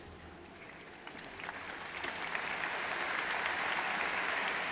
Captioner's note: crowd applauds